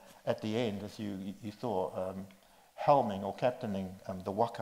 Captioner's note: none